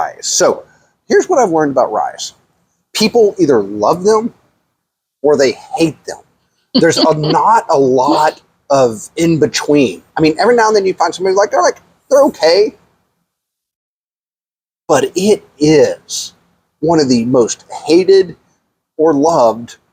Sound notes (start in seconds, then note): 6.7 laughs